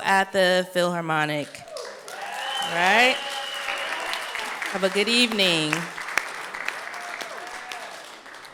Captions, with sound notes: at the Philharmonic, right. (audience clapping) Have a good evening.